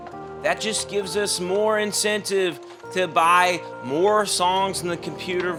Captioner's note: none